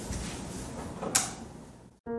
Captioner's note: light switch